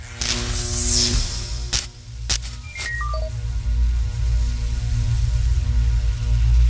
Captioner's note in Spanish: Sonidos electrónicos